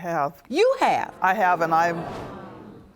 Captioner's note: audience gasping